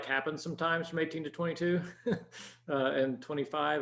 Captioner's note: chuckles